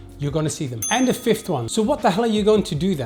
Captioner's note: bell dings